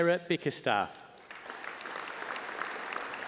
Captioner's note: applause